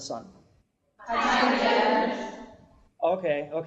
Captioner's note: collective voices off screen